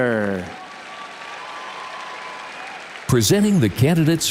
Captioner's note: audience cheers and applauds